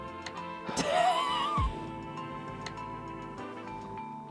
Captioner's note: laughter